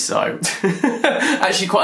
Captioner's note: laughs